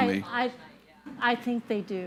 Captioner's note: speaks faintly